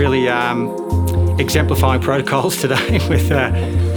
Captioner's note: laughs